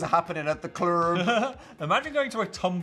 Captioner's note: Phil laughs